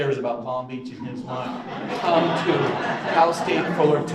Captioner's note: audience laughs